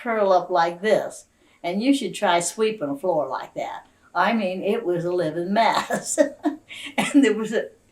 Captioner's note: laughs